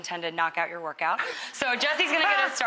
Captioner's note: laughter